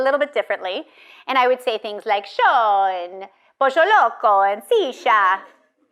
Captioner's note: speaking in foreign language